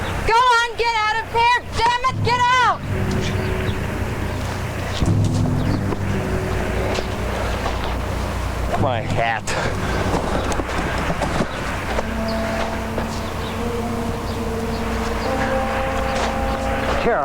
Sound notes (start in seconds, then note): 9.7 birds chirping; 15.1 dramatic music